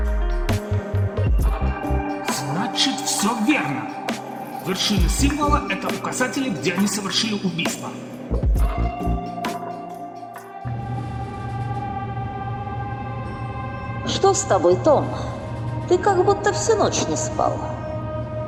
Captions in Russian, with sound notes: – Значит, всё верно. Вершины символа – это указатели, где они совершили убийства. (звуки движущегося лифта) – Что с тобой, Том? Ты как будто всю ночь не спал.